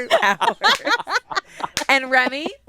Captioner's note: all laugh